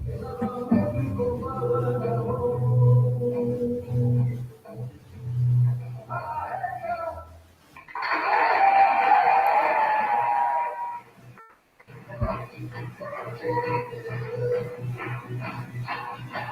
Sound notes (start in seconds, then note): 7.8 audience cheering and applauding; 12.2 upbeat drumbeat music